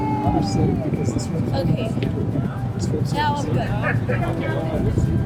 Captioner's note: speaking softly